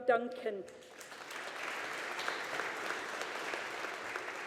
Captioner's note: audience applauding